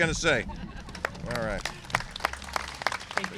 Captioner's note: applause